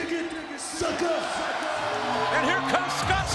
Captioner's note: crowd cheering